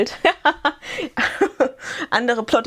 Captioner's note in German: gelächter